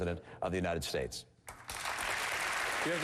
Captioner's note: applause